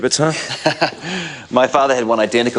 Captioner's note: Graham chuckles